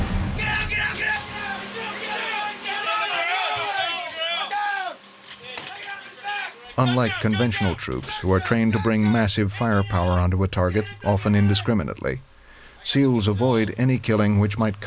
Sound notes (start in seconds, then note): 0.6 voiceover; 2.5 loud shouting; 7.0 voiceover